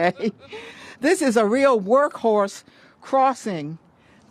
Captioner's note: laughter